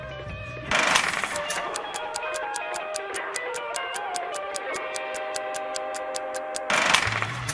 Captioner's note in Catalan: tic-tac